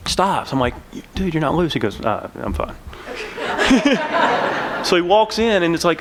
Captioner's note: laughter